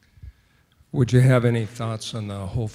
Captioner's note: voiceover